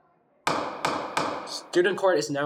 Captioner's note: gavel bangs